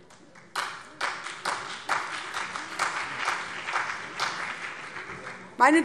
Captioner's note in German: Beifall CDU und BÜNDNIS 90/DIE GRÜNEN